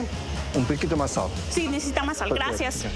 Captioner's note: speaks in foreign language